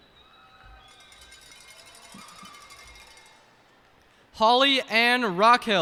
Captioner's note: cheers and applause